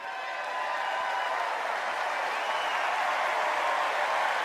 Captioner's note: applause